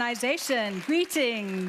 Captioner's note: audience applauds